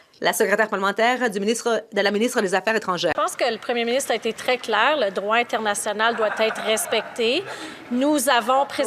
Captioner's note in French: voix de l'interprète